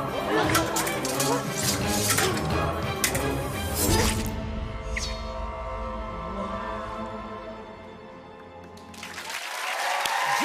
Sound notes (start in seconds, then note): 3.6 blade slices; 8.7 cheers and applause